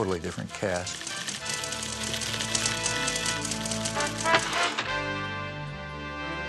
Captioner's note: typewriter clacking; dramatic music